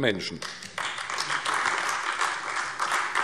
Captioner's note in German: Beifall AfD